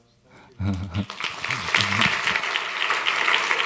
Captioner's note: applause